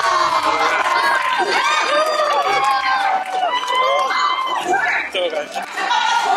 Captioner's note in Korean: 환호성